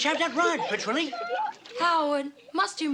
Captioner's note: in a gangster voice